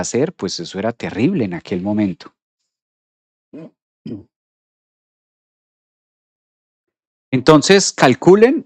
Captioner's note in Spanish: carraspeo